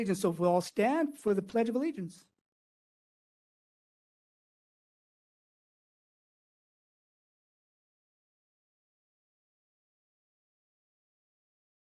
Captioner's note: no audio